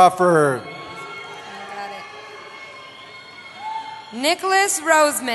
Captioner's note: cheering